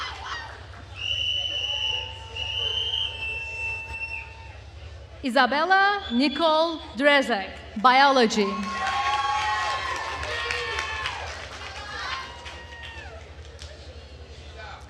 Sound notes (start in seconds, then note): 7.8 attendees cheering and applauding